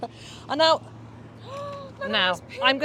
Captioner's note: gasps